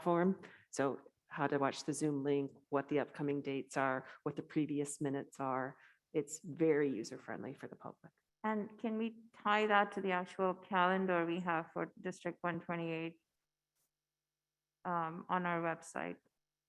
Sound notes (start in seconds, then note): none